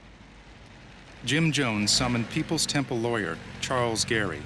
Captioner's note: voiceover